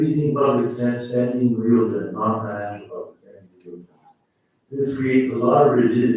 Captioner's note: faintly speaking